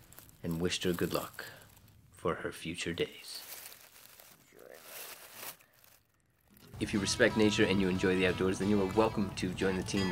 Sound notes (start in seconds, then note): 3.2 leaves crunching